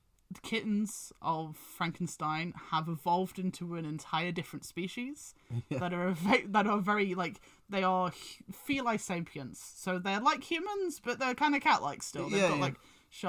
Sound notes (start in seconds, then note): 5.5 laughs a little